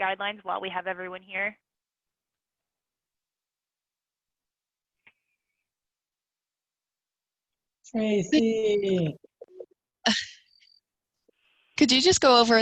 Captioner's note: silence